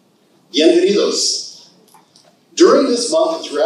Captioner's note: speaking in Spanish